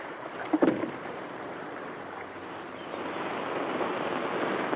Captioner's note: canister thuds